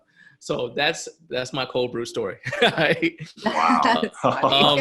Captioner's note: laughing; laughs